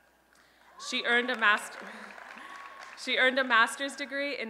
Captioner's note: applause and Cheering